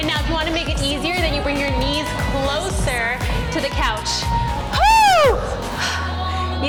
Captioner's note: yells